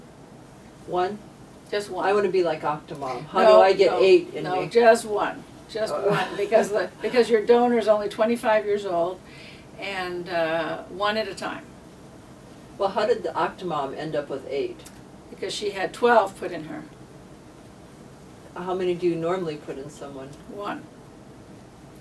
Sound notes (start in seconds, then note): 6.0 laughs